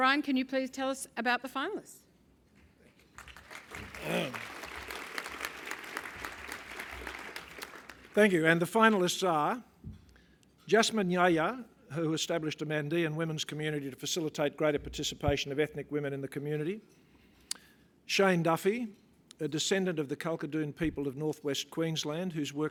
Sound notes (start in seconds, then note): 2.9 applause